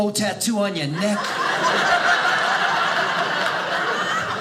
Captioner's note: audience laughing